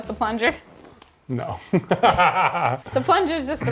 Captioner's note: laughing